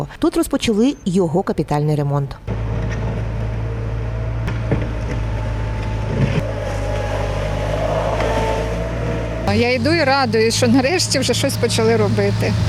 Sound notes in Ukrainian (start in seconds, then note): 2.5 звук трактора